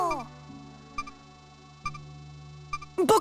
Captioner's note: silence